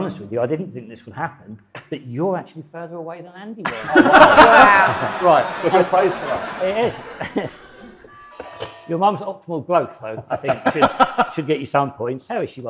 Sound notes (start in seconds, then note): 3.7 audience laughs; 7.7 buzzer rings